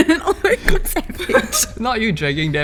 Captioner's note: sniggering